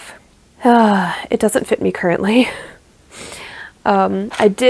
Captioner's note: sigh